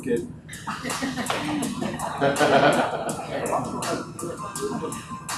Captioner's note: audience laughs